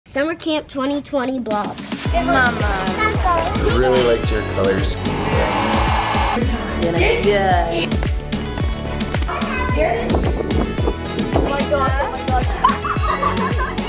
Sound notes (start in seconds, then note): 1.0 uptempo music playing; 4.7 blow dryer; 6.1 group chattering; 8.7 upbeat music; 12.5 laughter